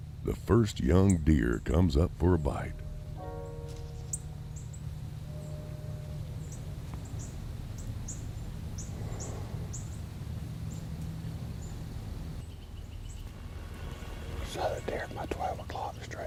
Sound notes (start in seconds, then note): 8.8 quiet breathing; 12.7 birds chirping